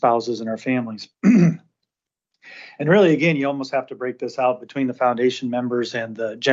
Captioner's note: clears throat